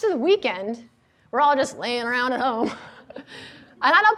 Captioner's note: laughs